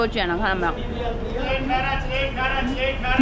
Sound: background sound in Arabic

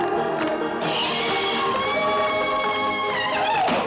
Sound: whooping

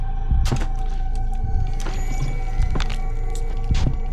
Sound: feet clunking

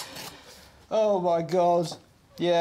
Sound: paper tearing

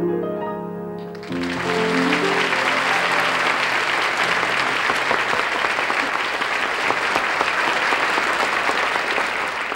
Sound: crowd applauding

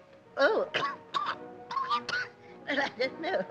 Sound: coughs

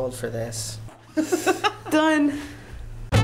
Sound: laughing

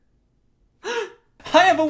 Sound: gasps

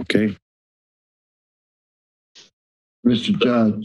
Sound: silence

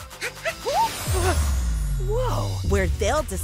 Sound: whooshing

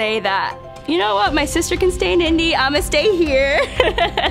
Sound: laughing

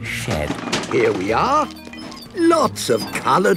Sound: bangs and rattles

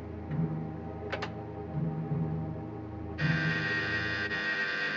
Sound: doorbell buzzes; doorknob twists

